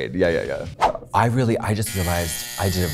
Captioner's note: alarm buzzing